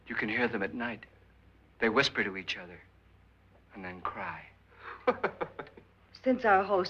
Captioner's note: laughs